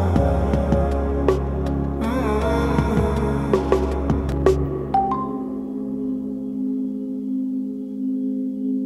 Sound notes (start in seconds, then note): 5.0 phone dinging